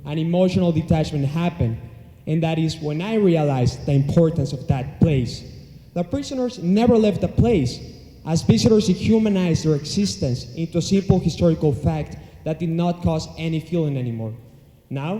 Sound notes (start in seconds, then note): none